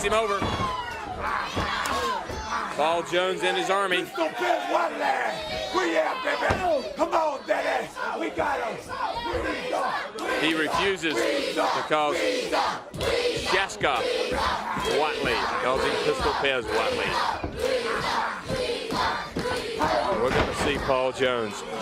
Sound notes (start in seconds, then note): 11.4 crowd cheering; 17.0 crowd cheering